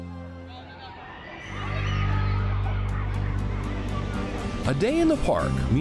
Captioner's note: parkgoers chatter; bright music